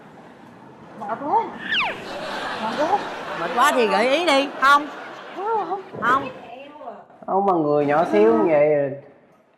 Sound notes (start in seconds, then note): 1.7 laughing